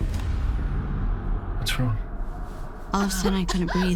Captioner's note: coughing